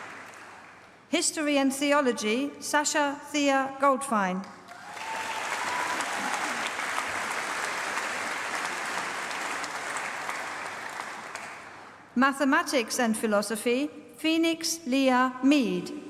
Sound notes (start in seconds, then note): 4.6 applause